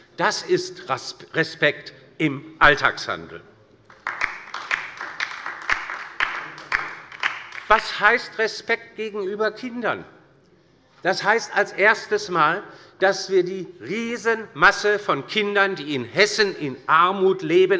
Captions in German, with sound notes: Das ist Respekt im Alltagshandeln. [Beifall bei der LINKEN] Respekt gegenüber Kindern bedeutet zunächst einmal, dass wir die große Masse von Kindern, die in Hessen in Armut leben,